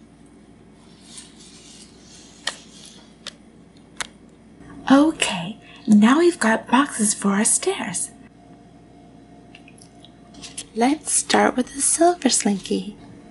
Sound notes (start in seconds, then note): none